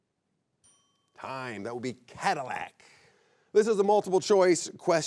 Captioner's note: bell chimes